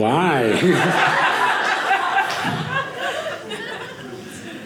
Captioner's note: audience laughing